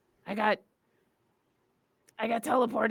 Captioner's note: none